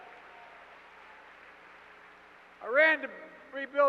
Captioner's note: applause